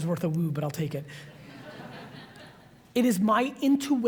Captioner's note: audience laughs